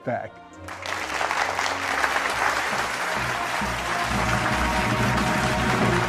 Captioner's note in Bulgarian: Аплодисменти